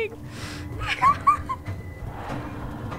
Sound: nervous laugh

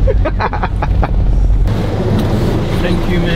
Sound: everyone laughing

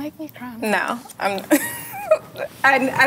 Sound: laughs

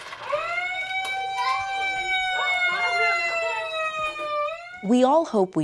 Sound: siren blaring

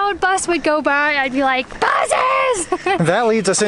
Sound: laughing

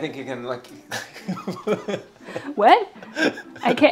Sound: laughs

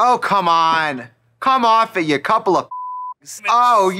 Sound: beeping

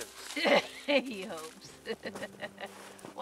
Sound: laughs

